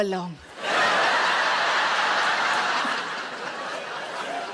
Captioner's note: audience laughs